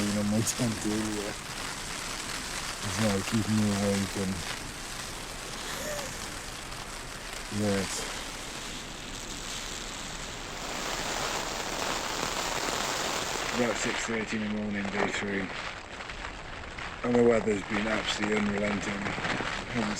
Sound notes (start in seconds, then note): 5.6 chuckles